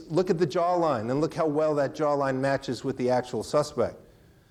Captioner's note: none